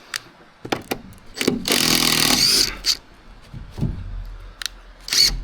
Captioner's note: drill whirring